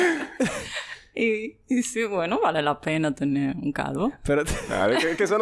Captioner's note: laughs; laughs